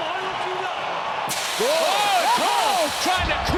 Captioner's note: canister whooshes